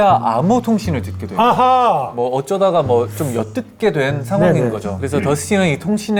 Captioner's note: russian out of nowhere